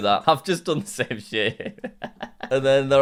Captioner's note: laughs